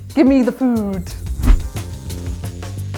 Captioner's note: whoosh; upbeat corny music